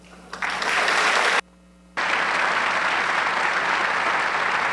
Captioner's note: audience clapping